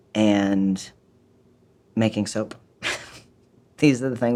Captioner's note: laughs